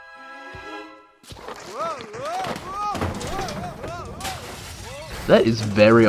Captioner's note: Over-the-top Looney Tunes slip & fall noises